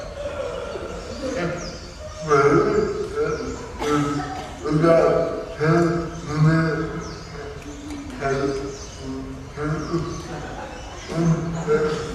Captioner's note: audience: Some giggles